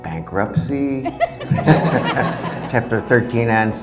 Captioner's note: audience laughing